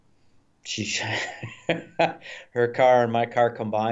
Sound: laughs

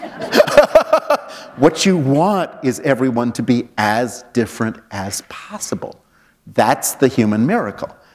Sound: laughter

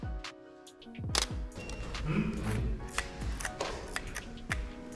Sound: camera shutter clicks

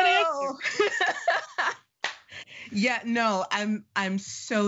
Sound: laughing

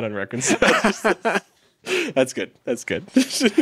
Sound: laughing

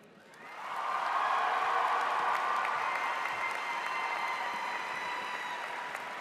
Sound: cheers; audience applauds

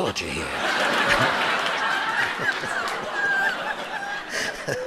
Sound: audience laughing

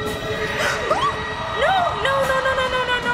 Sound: gasps; yelps

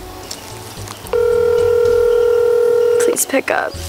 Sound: phone ringing

